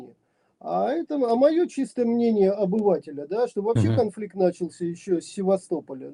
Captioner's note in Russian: откашливается